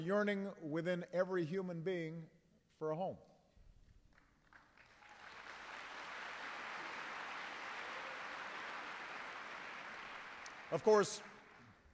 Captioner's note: applause